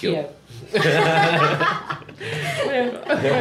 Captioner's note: rires